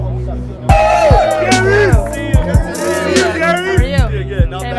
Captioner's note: group cheers